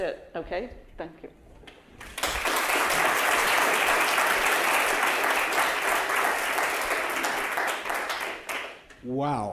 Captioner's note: applause